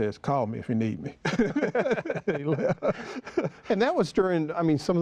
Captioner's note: laughter